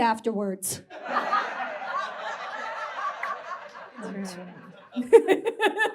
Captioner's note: audience laughs